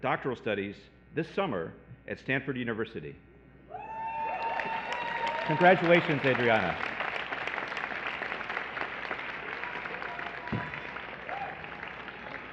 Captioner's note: cheering